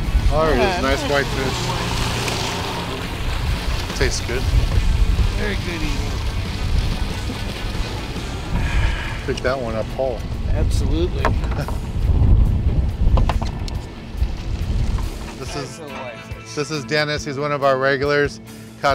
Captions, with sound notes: Oh, there it is. It's a nice white fish. [water splashing] Tastes good. Oh, goody. [sighing] - Good job it did not fall. - Absolutely. [wind blowing] This is& This is Dennis. He's one of our regulars.